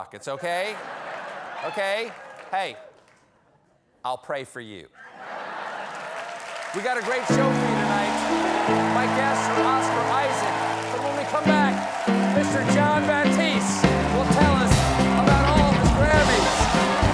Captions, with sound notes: OKAY? OKAY? HEY, I'LL PRAY FOR YOU. ( LAUGHTER ) ( APPLAUSE ) WE'VE GOT A GREAT SHOW FOR YOU TONIGHT. MY GUESTS IS OSCAR ISAAC. BUT WHEN WE COME BACK, MR. JON BATISTE WILL TELL US ALL ABOUT